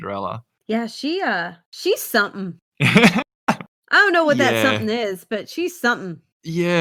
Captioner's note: laughs